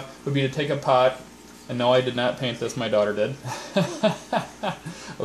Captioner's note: laughter